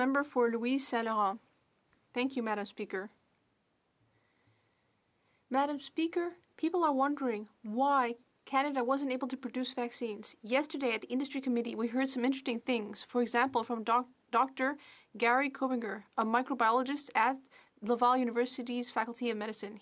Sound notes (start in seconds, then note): 1.7 speaking French